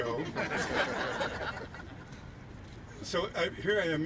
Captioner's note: laughing